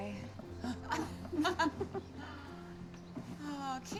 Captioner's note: laughing